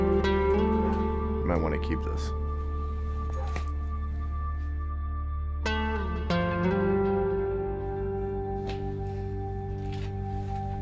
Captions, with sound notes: Might want to keep this. (badge clinks) (sad music)